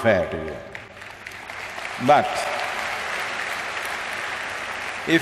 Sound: applause

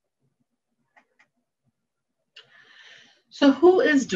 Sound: mouse clicking

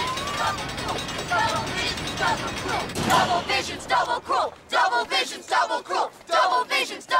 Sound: crying; chanting

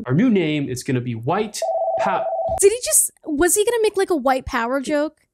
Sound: phone rings

